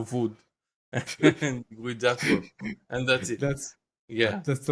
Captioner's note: laugh